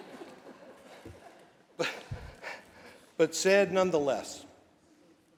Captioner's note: laughter